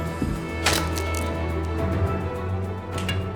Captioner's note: intense dramatic music; sticks snaps; intense dramatic music